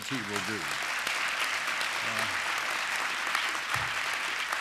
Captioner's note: applause